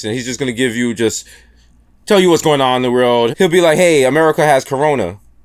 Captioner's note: none